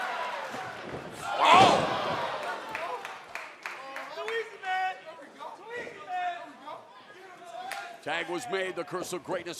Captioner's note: crowd chatter